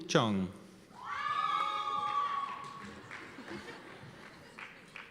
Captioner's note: cheers and applause